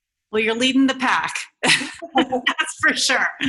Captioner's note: laughing